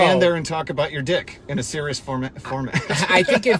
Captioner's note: laughs